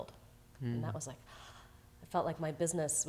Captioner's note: gasps